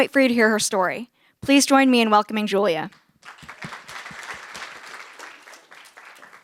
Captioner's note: applause